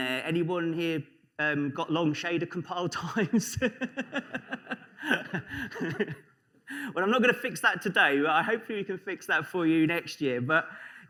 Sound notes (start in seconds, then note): 3.4 laughter